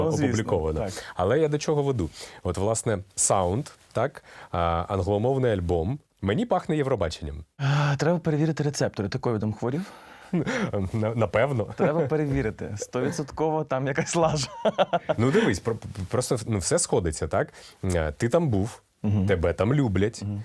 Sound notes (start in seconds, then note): 14.2 loughting